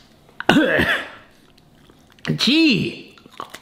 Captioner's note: coughs